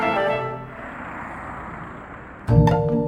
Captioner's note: humming traffic; lighthearted orchestral music